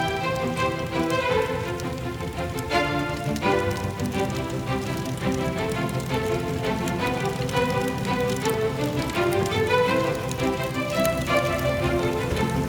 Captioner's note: bibingka cooking, charcoal sizzling